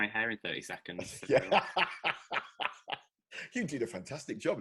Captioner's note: laughing